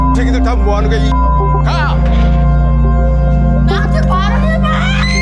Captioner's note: beep; speaking Korean; beep; speaking Korean